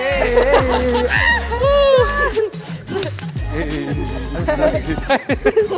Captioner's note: students laughing and cheering